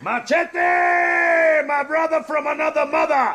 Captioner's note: yelling